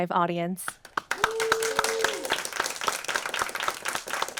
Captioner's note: audience applauding